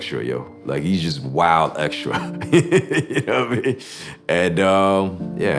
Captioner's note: laughs